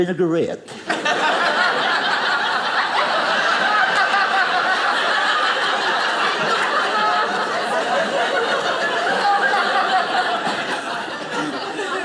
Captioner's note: audience laughing